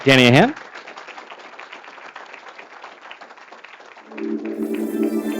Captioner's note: applause